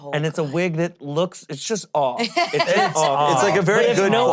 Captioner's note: laughing